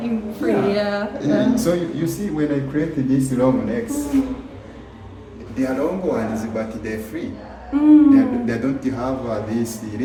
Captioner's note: hmm